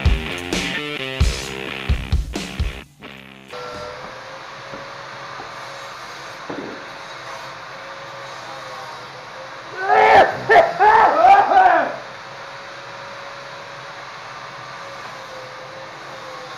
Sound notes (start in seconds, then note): 9.9 loud coughing